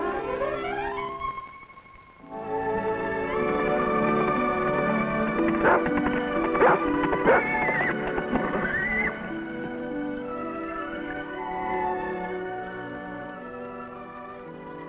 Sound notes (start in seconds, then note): 3.5 soft music; 6.5 dog barks; 7.2 horse neighs